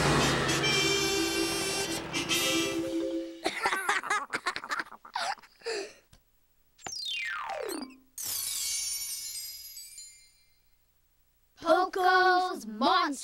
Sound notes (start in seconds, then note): 3.4 laughing